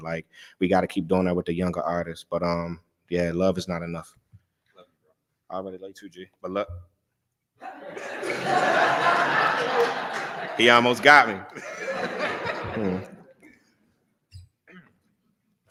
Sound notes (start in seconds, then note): 7.6 laughter